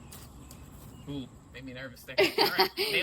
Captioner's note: laughs